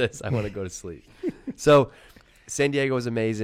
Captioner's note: laughs